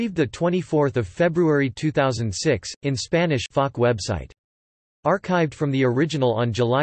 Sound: in Spanish

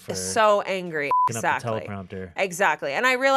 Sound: beep

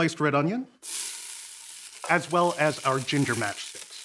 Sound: sizzling

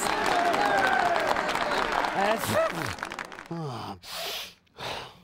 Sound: sneezes

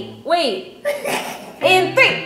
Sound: laughs

